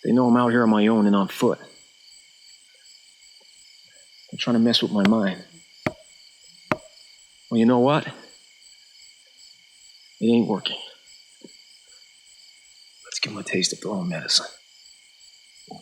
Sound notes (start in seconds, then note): 6.7 wood tapping